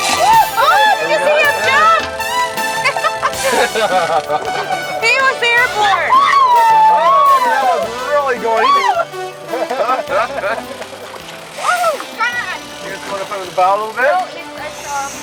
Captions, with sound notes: Do I crawl on top of Gary? On your right, I'll get your rigs up, girl. (laughing) Oh, I can see him jump. (laughing) He was airborne. (cheering) That was really good.